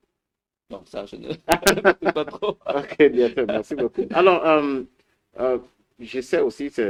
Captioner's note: laughs